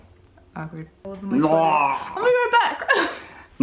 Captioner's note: rawring noise